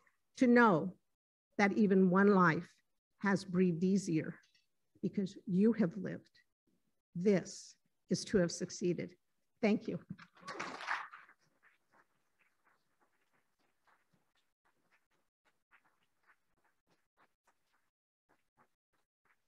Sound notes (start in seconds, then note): 10.3 applauding